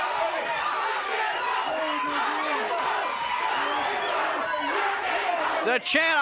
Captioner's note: crowd chants "Rock 'n' Roll"